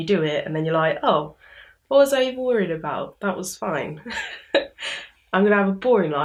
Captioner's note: laughs